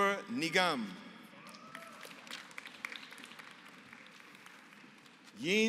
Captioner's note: applause